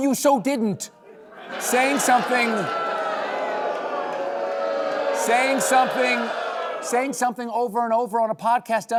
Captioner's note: booing